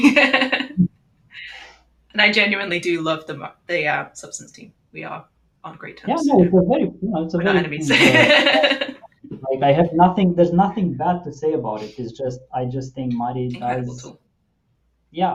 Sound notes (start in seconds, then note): 0.0 laughs; 8.4 laughs